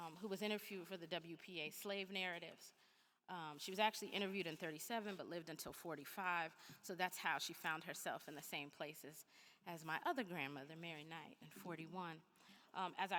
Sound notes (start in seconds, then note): none